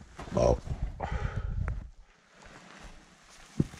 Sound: burping

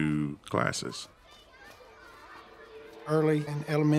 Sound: children calling and talking in background

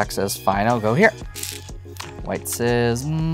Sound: stones rattling

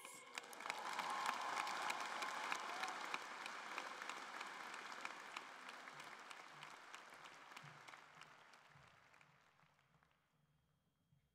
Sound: cheering and Applause

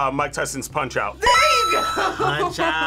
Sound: buzzer rings; laughs

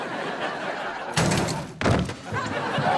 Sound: laughing; crashing

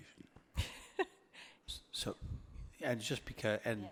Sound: laughter

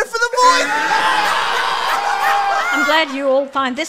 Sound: group Laughter

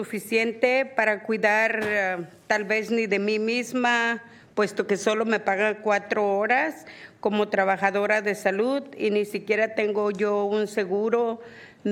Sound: speaking spanish

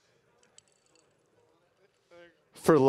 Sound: glass clinking

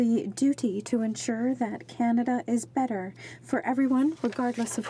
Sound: speaking French

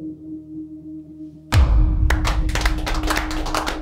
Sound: gavel; clapping of prisoners in a group meeting

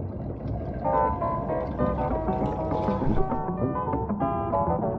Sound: underwater suction

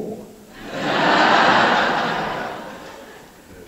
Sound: laughter

